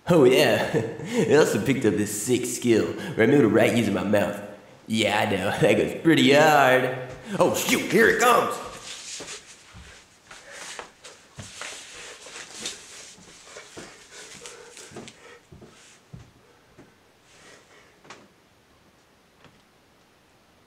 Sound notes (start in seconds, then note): 9.0 footsteps going downstairs